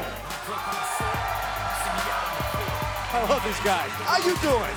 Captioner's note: crowd cheering